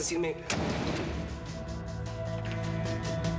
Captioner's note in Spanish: portazo